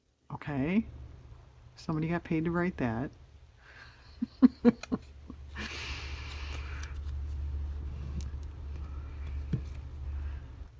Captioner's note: laughs